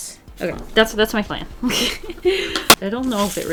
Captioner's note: laughs